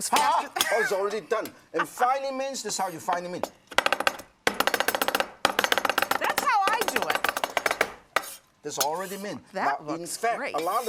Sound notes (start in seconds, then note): 1.7 laughter; 4.4 chopping